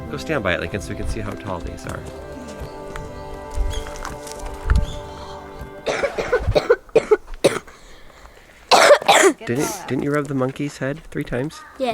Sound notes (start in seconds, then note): 6.9 coughing